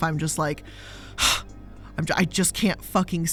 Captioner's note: sighs